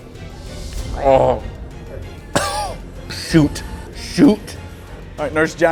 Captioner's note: coughs